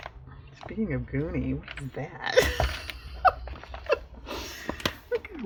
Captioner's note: laughs